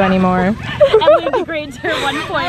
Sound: laughter

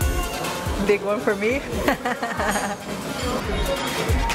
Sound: laughs

